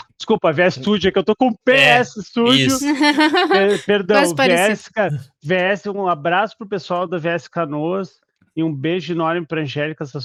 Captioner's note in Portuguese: risadas